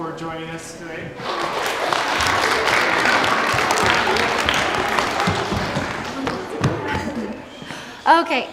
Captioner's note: clapping